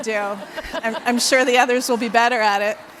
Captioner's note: laughs